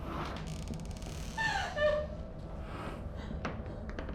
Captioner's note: door creaks open